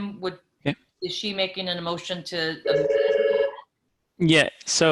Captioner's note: telephone rings